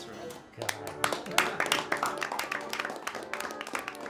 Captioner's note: crowd claps